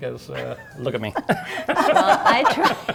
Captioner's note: laughing